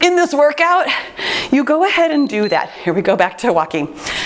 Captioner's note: timer beeps